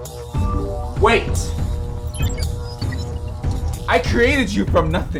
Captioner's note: electricity buzzes